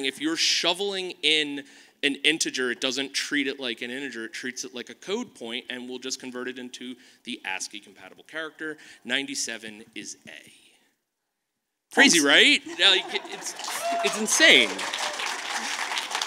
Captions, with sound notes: if you are shoveling in an integer, it doesn't treat it like an integer. It treats it like a code point, and will just convert it into the ASCII compatible character. 97 is A. Crazy right? (audience claps) It's insane.